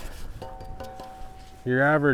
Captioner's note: knocks on shovel